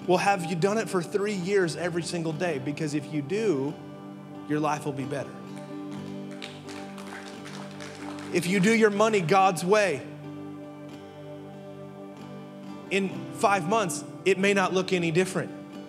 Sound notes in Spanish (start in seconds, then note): 5.4 congregantes aplaudiendo